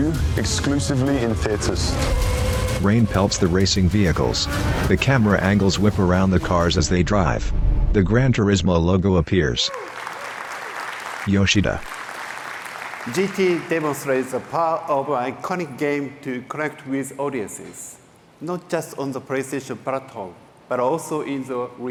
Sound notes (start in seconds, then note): 9.6 applause